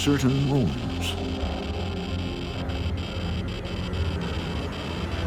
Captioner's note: meter crackling; spooky music